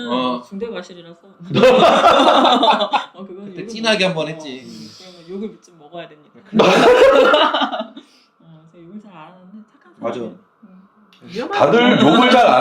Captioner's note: laughs